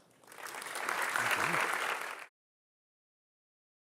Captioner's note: audience applauding